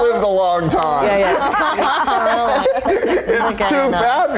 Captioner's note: laughing